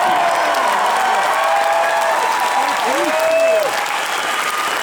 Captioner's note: audience Cheers